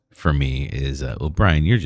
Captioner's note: uh